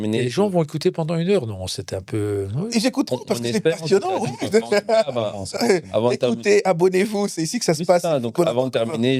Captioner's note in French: rires